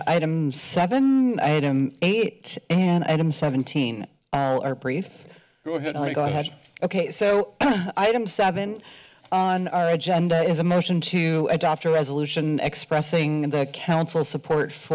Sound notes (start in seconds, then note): 7.6 clears throat